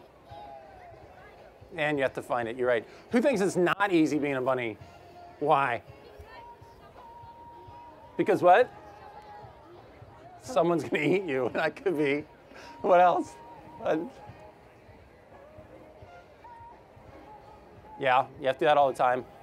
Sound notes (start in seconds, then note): 11.5 laughter